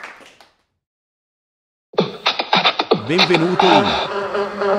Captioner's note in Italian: Applauso